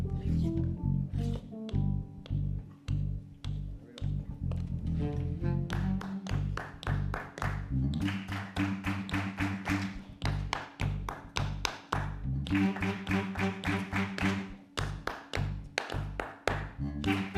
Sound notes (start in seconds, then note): 4.9 clapping rhythm; 4.9 slow tempo jazz music; 10.2 and audience clapping in repetition